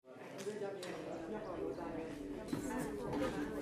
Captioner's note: people chattering